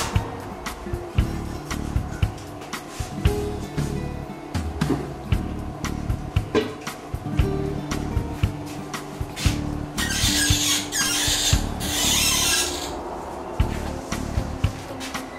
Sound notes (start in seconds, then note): 10.0 faucet handles squeak